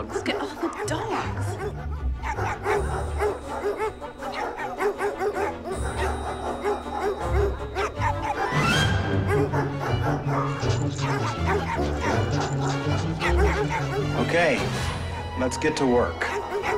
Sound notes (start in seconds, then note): 2.6 dogs barking loudly